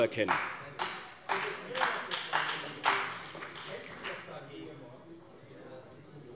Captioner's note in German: Beifall bei der CDU und dem BÜNDNIS 90/DIE GRÜNEN